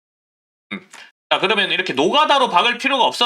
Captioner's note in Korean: 목을 가다듬음